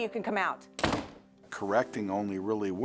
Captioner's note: door Slams